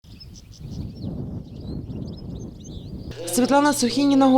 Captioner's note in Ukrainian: лунає спів птахів